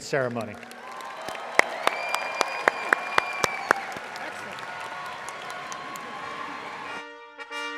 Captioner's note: audience applauding